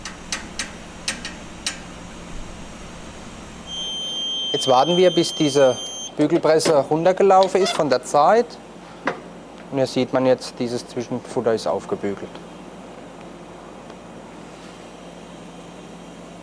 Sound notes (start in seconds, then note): 0.0 creaking noises; 3.7 high-pitched beeps